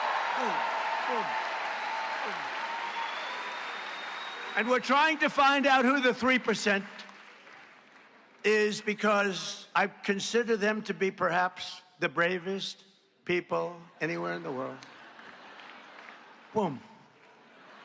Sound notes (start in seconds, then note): 9.1 applause